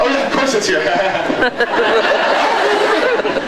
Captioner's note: laughs